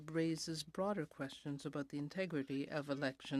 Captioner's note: speaking in french